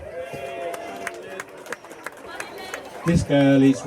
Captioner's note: applause